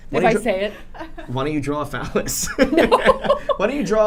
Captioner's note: laughing